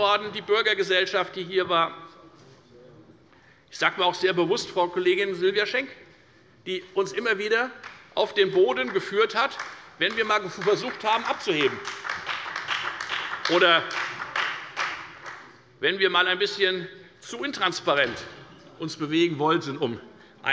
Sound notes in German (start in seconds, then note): 11.7 Beifall bei der FDP und bei Abgeordneten der SPD